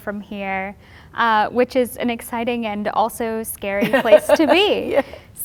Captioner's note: laughter